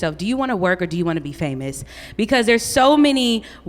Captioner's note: none